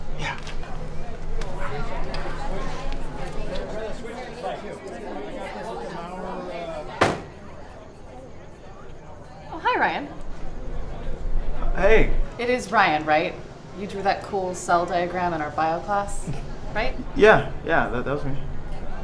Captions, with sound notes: - Yeah. (people chattering in distance) (bottle thumps) - Oh hi, Ryan. - Hey. - It is Ryan right? You drew that cool cell diagram in our bio class, right? - Yeah, yeah that was me.